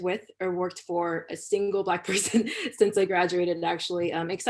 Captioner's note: laughter